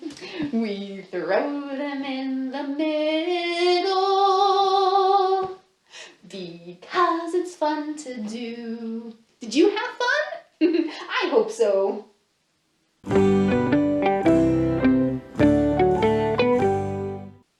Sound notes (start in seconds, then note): 10.6 laughs; 13.0 transition Music